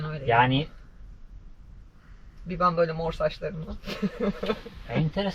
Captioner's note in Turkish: kahkaha